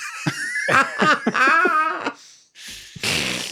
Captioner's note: both laugh